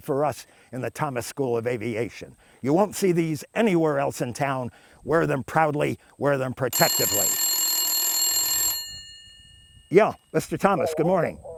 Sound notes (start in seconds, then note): 6.7 phone ringing